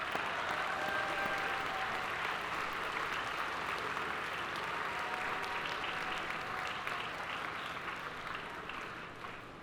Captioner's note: applause